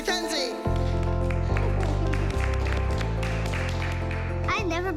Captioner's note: applause